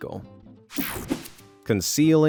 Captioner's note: scene change whirs